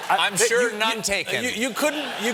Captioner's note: laughter